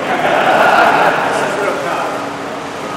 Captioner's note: laughter